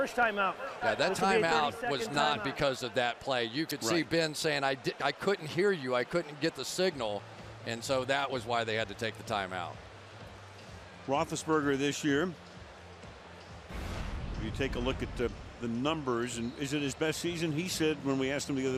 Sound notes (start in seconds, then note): 13.7 swoosh